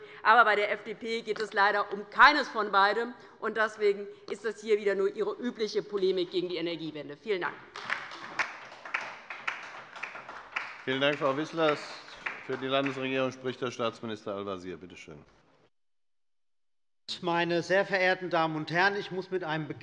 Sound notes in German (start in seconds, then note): 7.6 Beifall bei der LINKEN und bei Abgeordneten der SPD